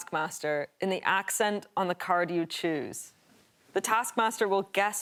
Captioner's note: none